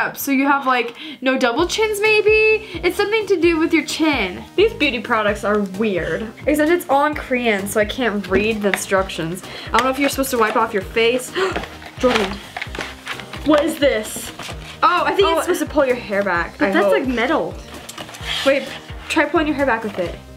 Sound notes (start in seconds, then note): 11.3 gasps